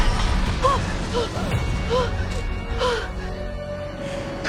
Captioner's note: gasps; MJ breathing heavily